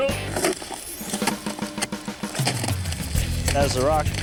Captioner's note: slab rumbling; upbeat music